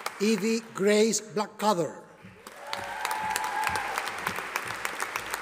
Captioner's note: audience applauding